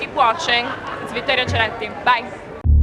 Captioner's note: speaks Italian